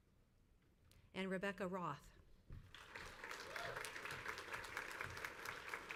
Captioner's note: crowd applauds